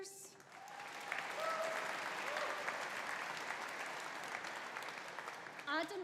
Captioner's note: audience applauding; audience cheering